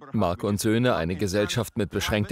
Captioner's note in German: JP sagt etwas in einer anderen Sprache